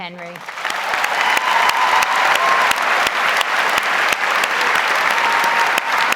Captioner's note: audience cheers and applauds